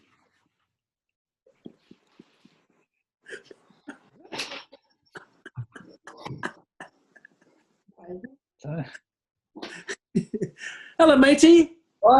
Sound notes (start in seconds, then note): 3.3 quiet giggling; 9.6 chuckling